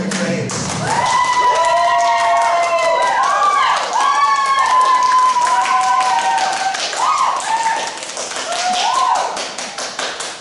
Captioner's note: "Voodoopunks" cheering